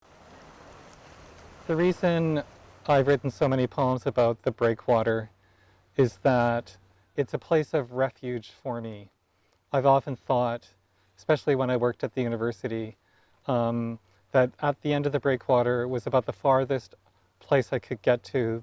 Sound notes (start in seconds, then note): 0.1 waves crashing